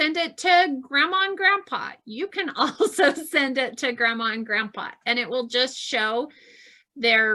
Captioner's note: laughs